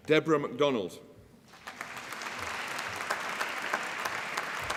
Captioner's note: applause